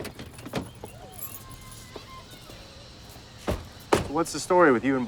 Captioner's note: children playing